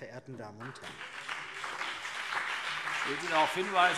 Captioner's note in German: Beifall CDU und BÜNDNIS 90/DIE GRÜNEN